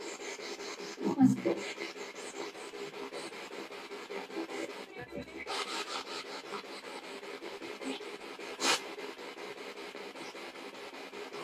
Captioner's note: radio noise from the spirit box